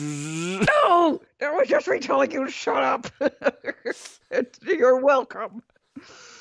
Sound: laughs

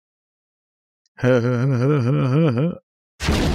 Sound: Seth Rogen laugh

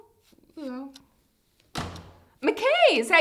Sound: door Slams

